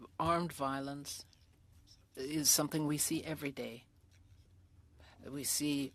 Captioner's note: speaking French